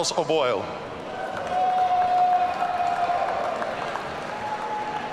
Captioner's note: audience cheering